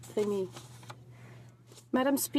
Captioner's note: speaking French